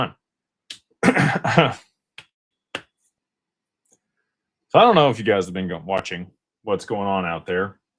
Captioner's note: clears throat